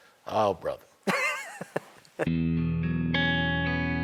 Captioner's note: laughs